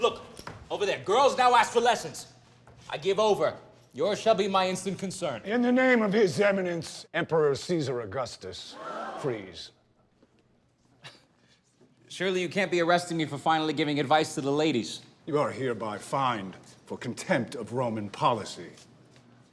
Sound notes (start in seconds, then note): 9.0 gasps; 11.1 laughs